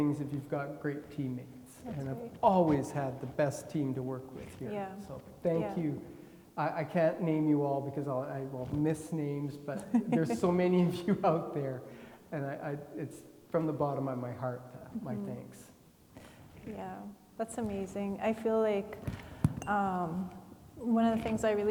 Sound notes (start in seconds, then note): 9.8 laughing